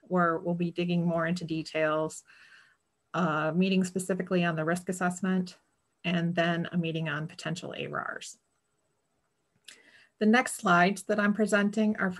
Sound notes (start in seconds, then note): none